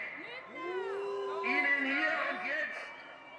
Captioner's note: crowd